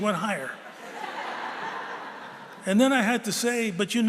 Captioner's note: laughter